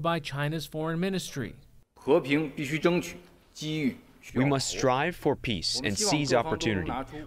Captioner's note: through translator